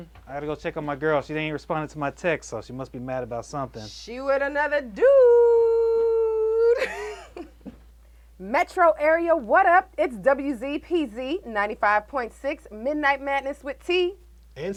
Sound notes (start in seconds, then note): 6.6 chuckles